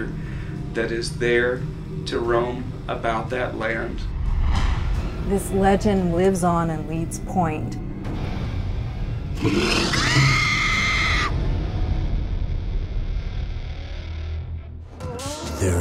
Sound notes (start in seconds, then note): 9.3 growl; 9.9 woman screams